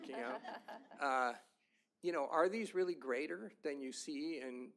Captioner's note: laughter